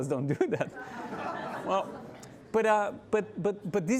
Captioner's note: audience laughing